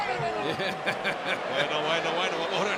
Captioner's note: laugh